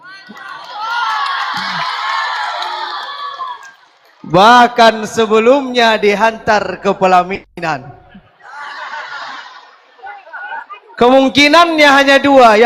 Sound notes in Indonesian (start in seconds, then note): 0.0 berteriak; 8.0 tertawa